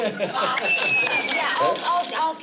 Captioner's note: whistles